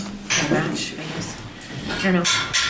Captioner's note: clattering